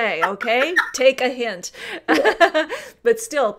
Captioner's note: laughs